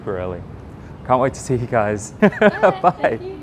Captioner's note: laughs